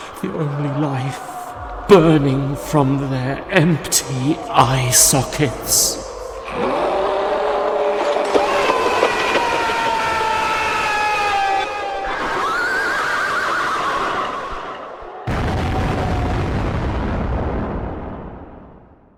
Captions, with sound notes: the only life life burning from their empty eye sockets! [Roaring] [He screams] [Horses whinny] [Crashing]